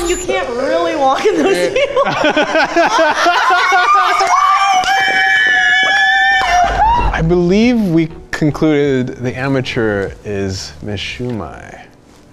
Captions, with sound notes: You can't really walk in those heels (laughs). (everyone laughs loudly) - I believe we concluded the amateur is Miss Shu Mai.